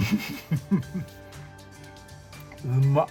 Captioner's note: laughs